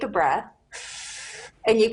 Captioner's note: inhales deeply